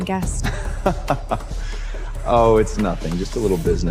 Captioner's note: laughing